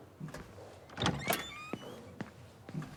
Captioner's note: door opens